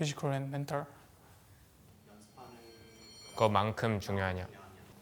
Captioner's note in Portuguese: Coreano